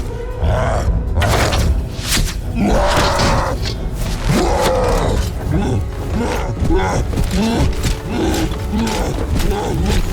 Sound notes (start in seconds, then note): 2.1 cyclops roars; 6.1 cyclops grunting